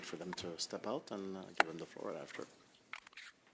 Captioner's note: speaking French